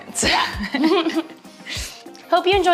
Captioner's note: laughing